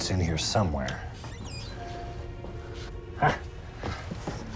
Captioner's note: cupboard Door Creaks Open